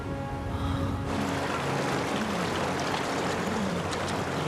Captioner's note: water flowing